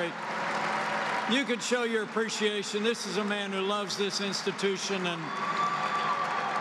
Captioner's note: applause